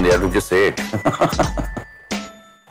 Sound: laughs

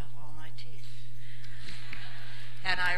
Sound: laughter

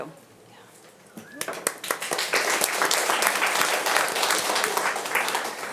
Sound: audience applauding

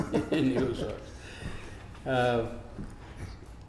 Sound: laughs

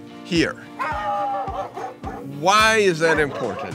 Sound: dogs barking

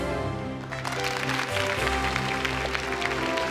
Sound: applause

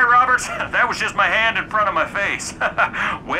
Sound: laughing

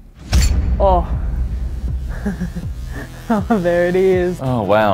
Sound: laughs

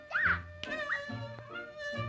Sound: slap

